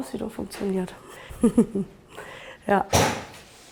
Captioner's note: laughs